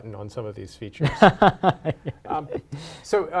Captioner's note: laughs